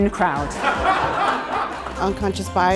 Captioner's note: audience laughing